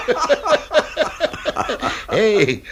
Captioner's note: both laugh heartily